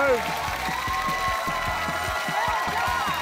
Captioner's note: cheering, applause